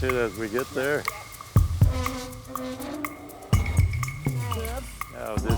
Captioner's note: wheel creaking